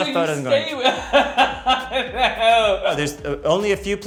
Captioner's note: Tan laughs